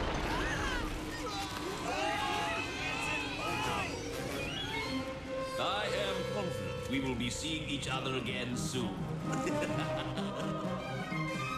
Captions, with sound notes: [SCREAMING] I AM CONFIDENT WE WILL BE SEEING EACH OTHER AGAIN SOON. [LAUGHS]